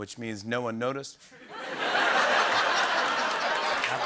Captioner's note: laughter and applause